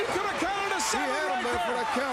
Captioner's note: crowd cheering